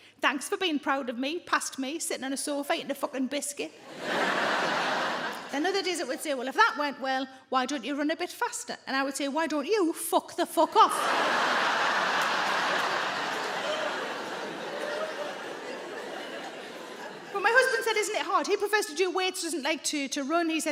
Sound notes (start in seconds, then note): 3.9 audience laughing; 10.7 audience laughing